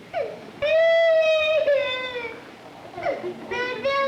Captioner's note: crying